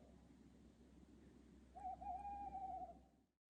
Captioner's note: owl hoots